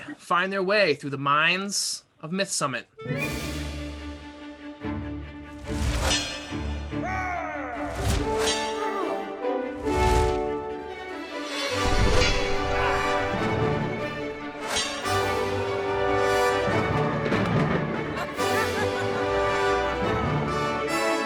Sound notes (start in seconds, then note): 3.4 epic music; 7.9 swords clashing